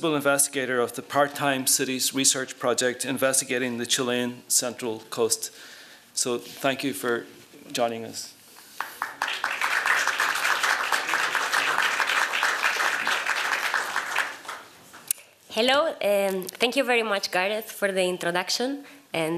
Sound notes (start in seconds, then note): 8.7 applause